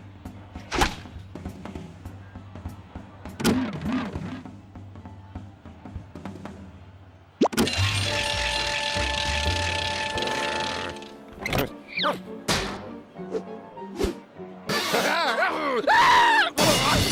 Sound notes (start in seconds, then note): 7.1 bell ringing; 9.2 growls; 14.7 laughs maniacally; 15.2 screams; 16.6 crash